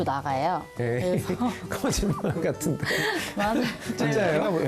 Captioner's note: ㅎㅎㅎㅎㅎㅎㅎ